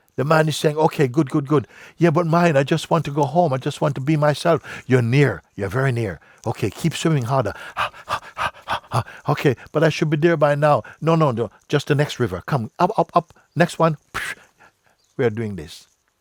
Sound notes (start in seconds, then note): 7.2 panting